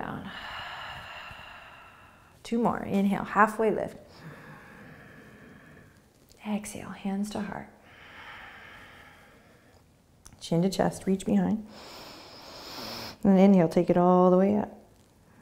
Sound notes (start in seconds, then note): 0.2 exhaling; 4.1 inhaling; 7.8 exhaling; 11.7 inhaling